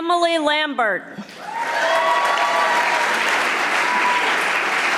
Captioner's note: audience applauding